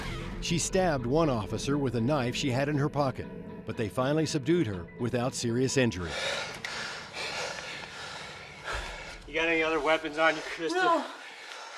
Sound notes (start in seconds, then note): 6.1 panting